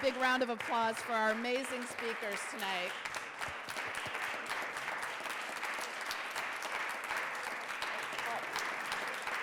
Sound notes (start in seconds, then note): 3.7 group clapping